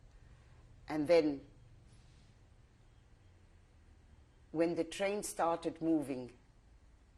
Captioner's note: pauses for 3 seconds